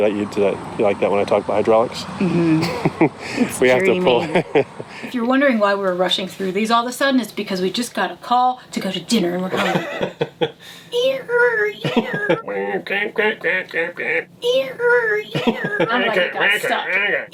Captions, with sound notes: - You like it when I talk about hydraulics. (laughing) - If you're wondering why we were rushing through these all of a sudden, its because we just got a call to go to dinner. (imitates squeaking)